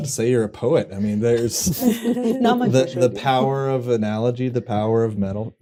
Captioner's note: laughter